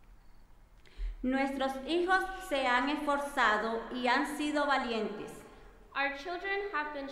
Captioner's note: speaking in foreign language